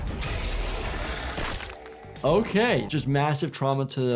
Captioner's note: skull thuds